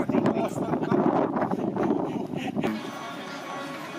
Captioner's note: laughter